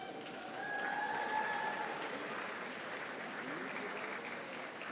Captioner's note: audience applauding